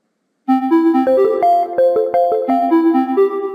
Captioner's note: chiming